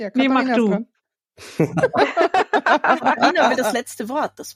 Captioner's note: laugh